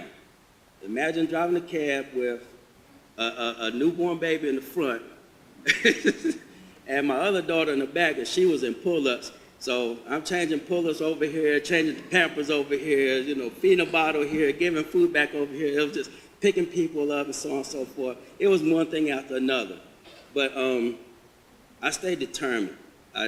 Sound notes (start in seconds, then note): 5.6 laughs